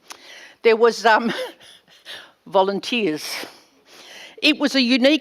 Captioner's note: laughs